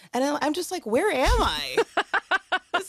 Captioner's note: laughs